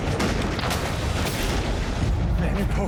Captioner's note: gunshots